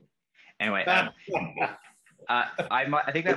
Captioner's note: laughter